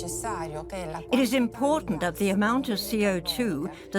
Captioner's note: in Italian